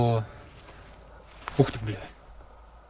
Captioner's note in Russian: шорох